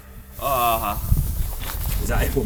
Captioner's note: groans